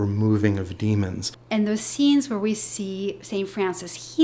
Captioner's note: voiceover